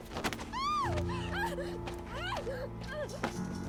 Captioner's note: Joia screams